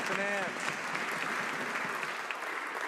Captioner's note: some Applause